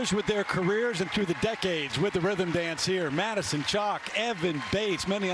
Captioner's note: cheers and applause